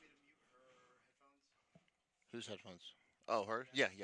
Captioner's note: murmuring